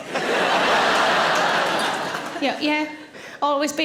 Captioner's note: audience laughing